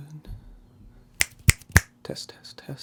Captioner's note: chasquido de dedos